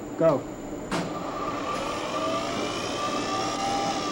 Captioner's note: whirring sound